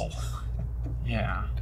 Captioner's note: chuckles